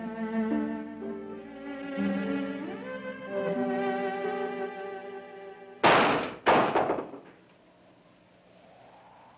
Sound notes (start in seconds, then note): 5.8 window banging; 7.8 window blowing